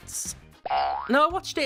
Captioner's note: boing sound